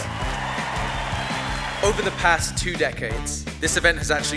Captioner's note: applause